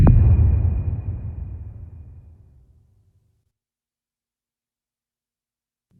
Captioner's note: dramatic sound